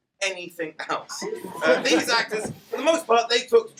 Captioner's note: laughter